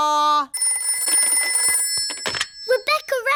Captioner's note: phone rings